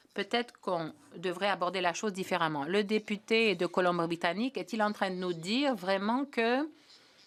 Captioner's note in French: voix de l'interprète